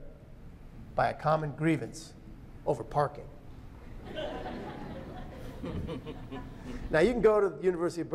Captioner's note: laughter